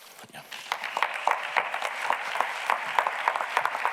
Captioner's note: audience clapping